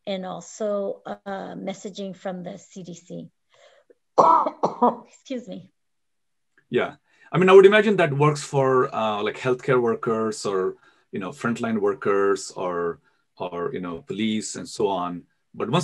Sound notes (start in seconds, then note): 4.2 coughs